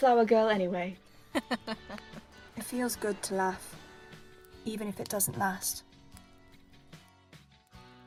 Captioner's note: James laughs